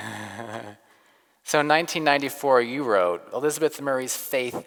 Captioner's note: laughs